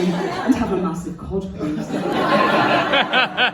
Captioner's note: audience laughter